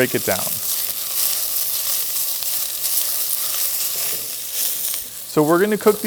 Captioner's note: pan sizzling